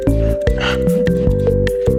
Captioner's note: exhales Oxygen